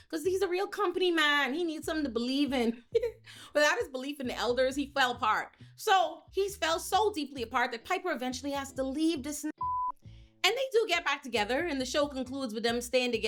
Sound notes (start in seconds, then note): 9.6 beep